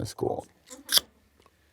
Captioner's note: crew giggling